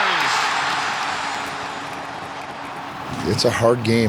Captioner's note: crowd cheers